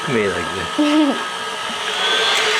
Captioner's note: chuckles; whirring continues